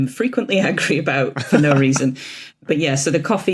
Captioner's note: chuckles